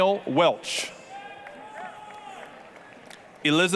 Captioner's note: applause, cheering